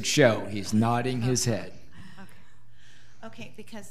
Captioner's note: laughing